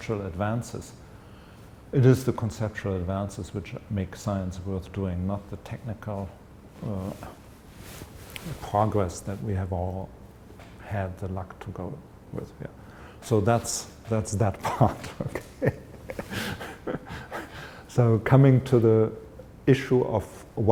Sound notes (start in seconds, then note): 15.0 chuckle